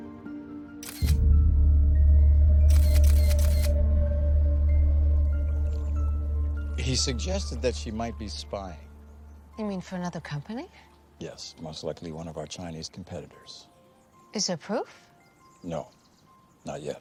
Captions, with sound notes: (shutter clicking) (birds chirping) - He suggested that she might be spying. - You mean for another company? - Yes. Most likely one of our Chinese competitors. - Is there proof? - No. Not yet.